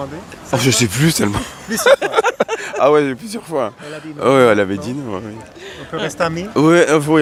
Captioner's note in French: rires